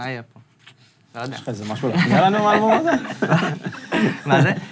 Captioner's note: laughs